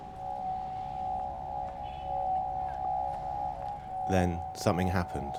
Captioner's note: tone sound